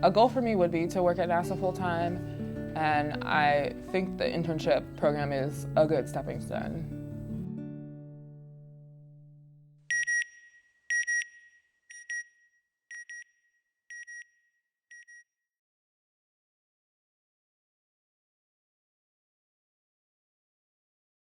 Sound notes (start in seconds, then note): 9.2 beeping